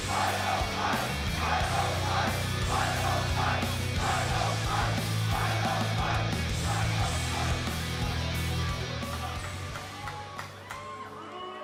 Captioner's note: fans chanting